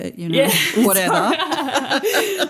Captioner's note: laughter